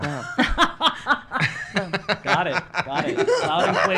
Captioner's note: laughs